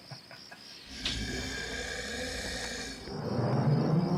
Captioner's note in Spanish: Rogers gruñendo; música espeluznante